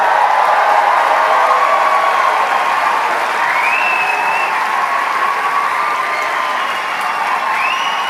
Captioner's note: cheering; applause; applause